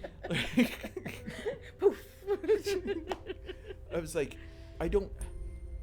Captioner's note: laughing